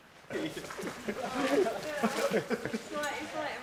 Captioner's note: all laughing